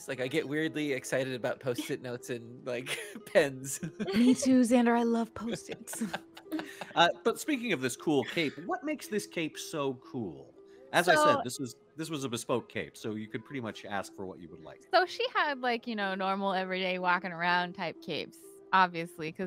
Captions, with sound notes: Like, I get weirdly excited about post-it notes and like, pens. (laughs) - Me too, Xander. I love post-its. - But speaking of this cool cape, what makes this cape so cool? As I said, this was a bespoke cape, so you could pretty much ask for what you would like. - So, she had, like, you know, normal, everyday, walking around type capes obviously,